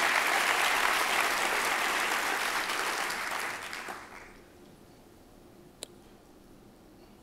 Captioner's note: applause